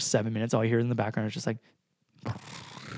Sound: purrs

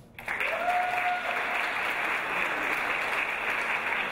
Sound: audience applause

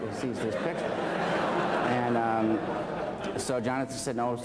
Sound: laughter

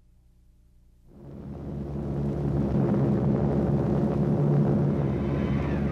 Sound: airplane engine humming

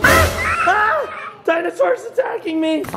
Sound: screams

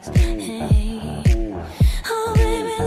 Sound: clap

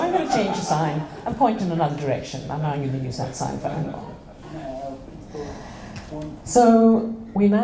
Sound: laughter

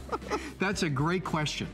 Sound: laughter

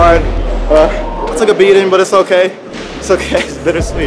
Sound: laughing

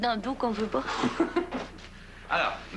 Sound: Rire

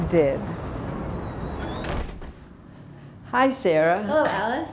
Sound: door creaks shut

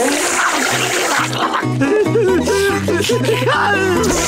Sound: groaning; whimpering

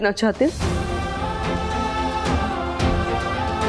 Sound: emotional vocalising

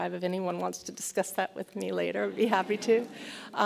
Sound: laughs

